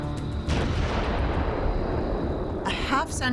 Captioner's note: explosion roars